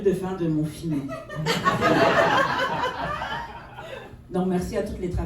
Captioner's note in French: rires